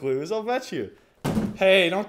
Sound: bang

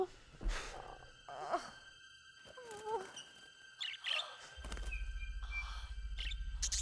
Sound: soft music; bird squawking

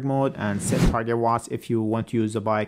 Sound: Instagram username whooshes

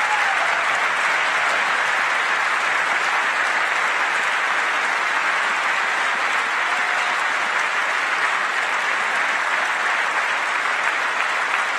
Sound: applause

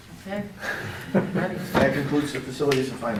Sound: laughing

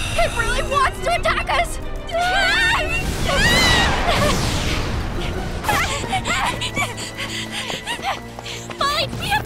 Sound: screaming

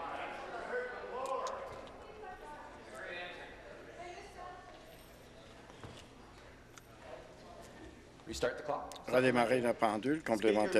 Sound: conversation din

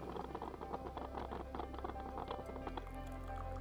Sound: coffee brewing

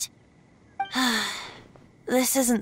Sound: sigh

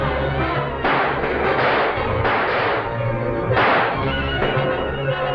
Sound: gunshots

